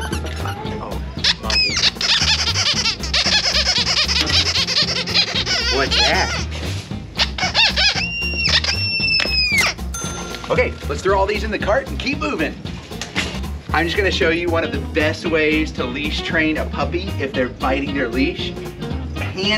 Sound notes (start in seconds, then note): 1.2 toy squeaking; 9.9 register dings